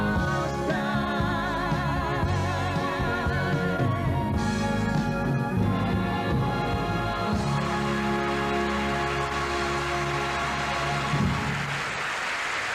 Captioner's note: cheers and applause